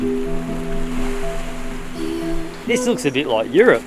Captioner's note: water flowing